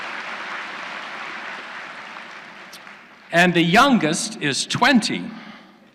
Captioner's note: applause